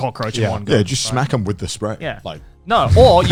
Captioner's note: laughs